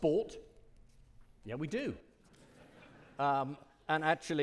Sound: audience laughing

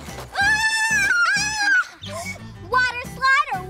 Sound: screaming

